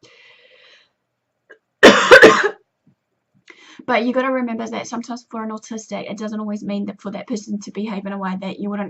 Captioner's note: coughs